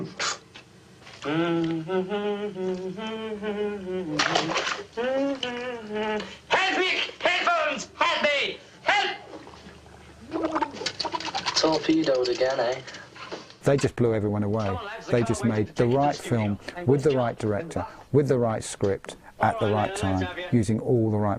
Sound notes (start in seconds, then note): 0.1 groaning; 1.2 humming rhythmically; 4.1 splashing water; 5.5 humming rhythmically; 9.2 bubbling